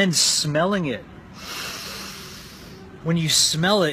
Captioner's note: inhales